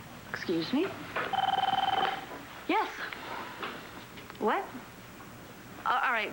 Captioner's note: phone rings